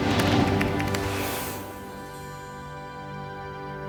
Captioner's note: bright music; tapping on keyboard